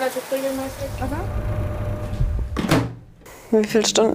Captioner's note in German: Rauschen, Klappern